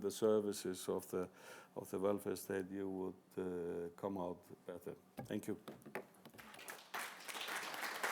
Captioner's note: applause